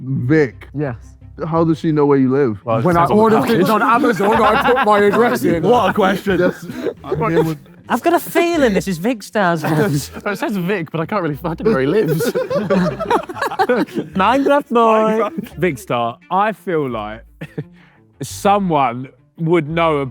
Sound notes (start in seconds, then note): 13.4 group laughing